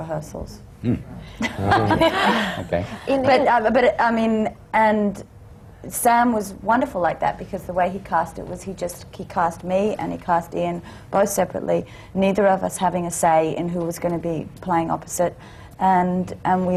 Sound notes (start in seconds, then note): 1.4 laughs